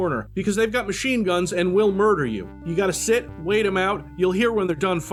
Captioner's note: none